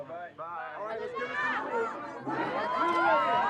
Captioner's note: shouts of "Madonna"